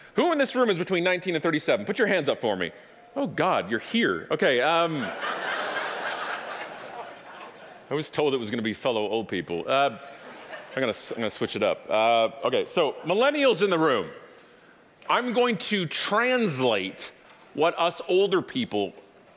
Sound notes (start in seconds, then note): 4.8 audience laughing; 10.1 audience laughing